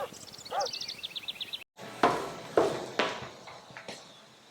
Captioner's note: distant dogs bark